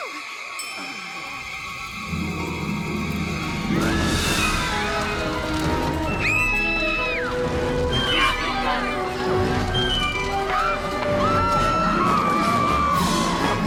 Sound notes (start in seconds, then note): 2.2 fire crackling; 5.6 women screaming